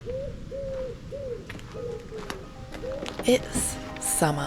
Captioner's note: pigeon